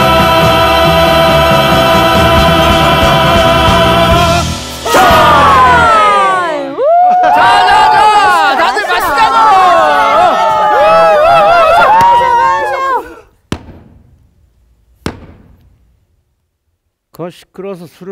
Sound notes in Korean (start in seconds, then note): 12.4 탁자 내리치는 소리